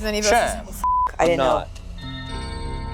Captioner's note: beep; dramatic music